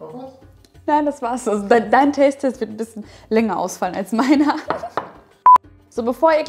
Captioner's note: laughing